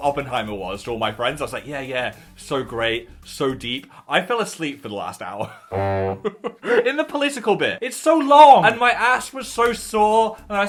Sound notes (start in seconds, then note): 5.5 laughs; 5.7 trumpet blows